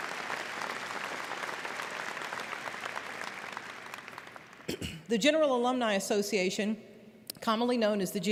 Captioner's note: applause